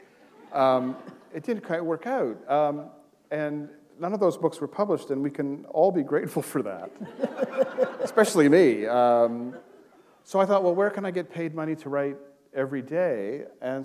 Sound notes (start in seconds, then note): 6.8 laughter